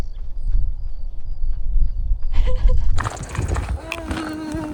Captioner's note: light footsteps; man quietly hollering